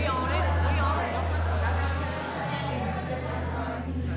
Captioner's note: chatter